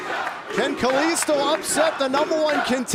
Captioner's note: fans chanting